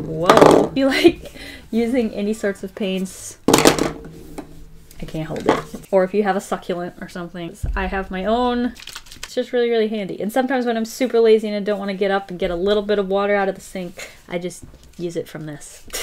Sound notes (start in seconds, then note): 8.6 water sloshing